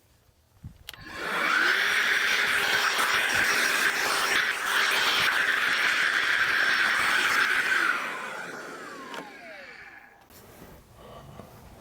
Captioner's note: sawing